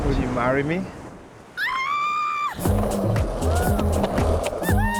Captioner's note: shrieks; laughs